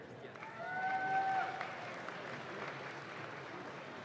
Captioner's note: audience claps